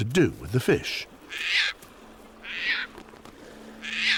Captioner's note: bird cawing